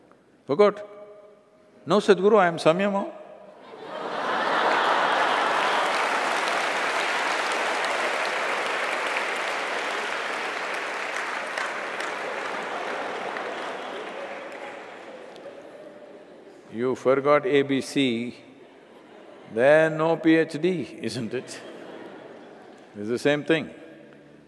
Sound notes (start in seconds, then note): 3.6 laughter/Applause